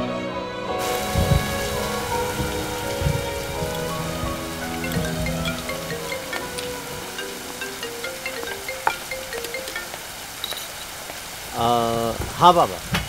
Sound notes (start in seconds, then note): 0.7 Rain pattering; 4.4 Phone ringing